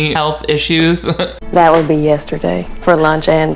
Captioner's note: chuckles